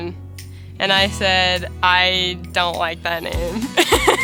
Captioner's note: laughs